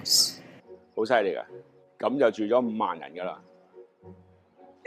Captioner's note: speaking chinese